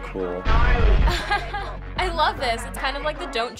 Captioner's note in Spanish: Risas